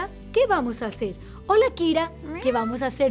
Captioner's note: meow